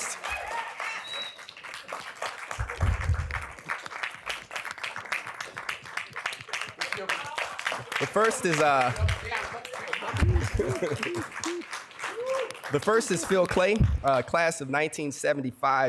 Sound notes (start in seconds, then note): 0.2 cheering and applause; 9.1 yelling from audience